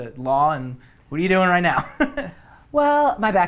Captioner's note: laughs